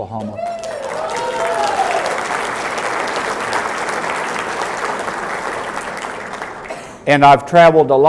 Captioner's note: applause